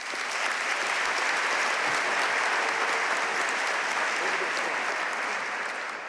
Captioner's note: audience cheering and applauding